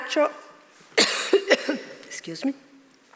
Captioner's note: coughs